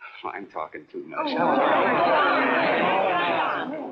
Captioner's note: chattering